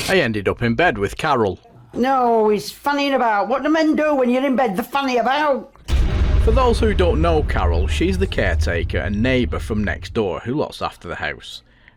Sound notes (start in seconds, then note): 5.8 sound FX